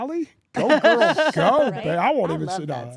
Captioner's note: laugh